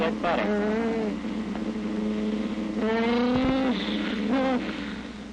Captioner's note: mumbling and groaning